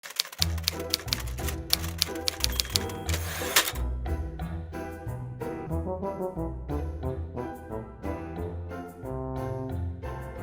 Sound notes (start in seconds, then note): 0.0 person typing; 2.8 playful music